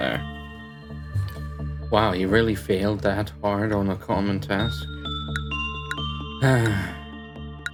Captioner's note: sigh